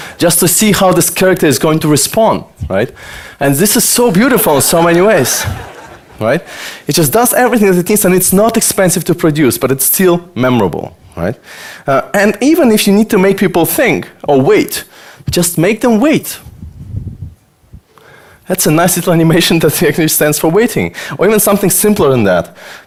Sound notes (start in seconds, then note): 4.3 audience laughter